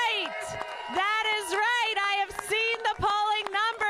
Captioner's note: cheers and applause